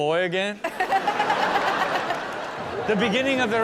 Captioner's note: audience laughs